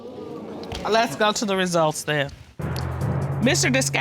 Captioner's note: audience exclaiming